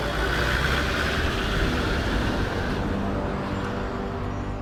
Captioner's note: car engine rumbling